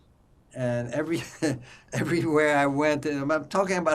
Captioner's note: laughing